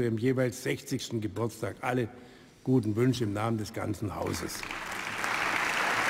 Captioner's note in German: Beifall